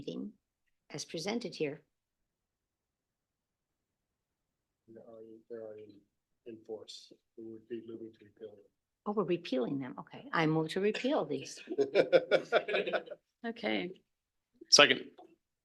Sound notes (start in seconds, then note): 11.4 laughing